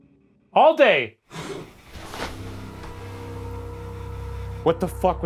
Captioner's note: entity growls